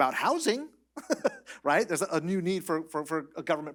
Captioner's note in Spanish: risas